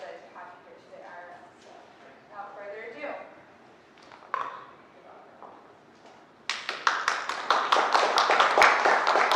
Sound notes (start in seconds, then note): 6.4 applause